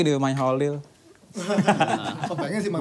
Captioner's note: laughs